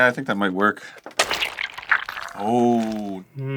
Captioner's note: squishy punch